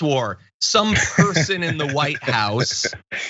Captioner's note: laugh